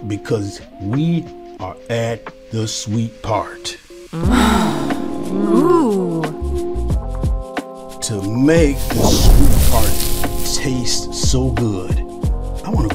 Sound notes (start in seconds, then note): 4.2 voices; 6.4 gentle music